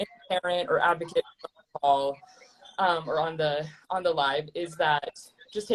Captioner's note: distorting